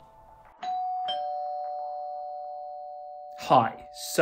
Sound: doorbell ringing

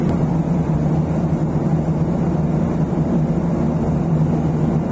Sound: sound of the Airline

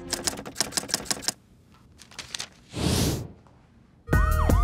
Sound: typing

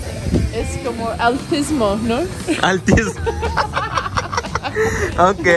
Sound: laughter

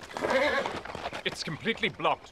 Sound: horse whinnies

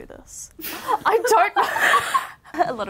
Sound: laughs

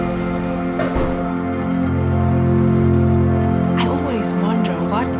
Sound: slow, quiet orchestra music; car doors slam

